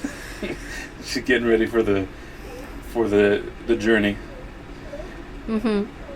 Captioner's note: laughing